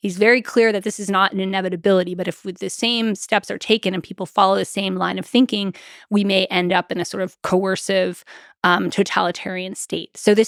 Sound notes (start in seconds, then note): none